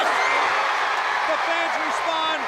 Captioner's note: crowd cheering